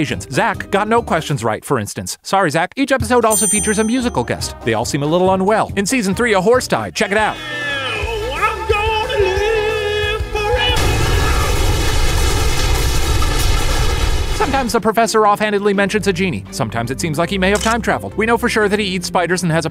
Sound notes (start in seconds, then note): 10.7 explosion noise